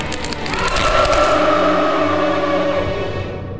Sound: growling

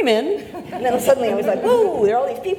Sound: audience laughs

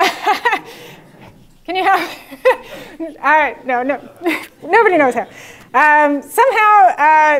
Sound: laugh

